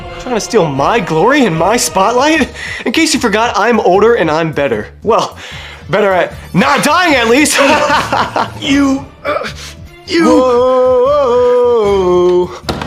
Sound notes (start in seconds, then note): 7.3 laughs pridefully; 10.5 sings as he heartlessly leaves the room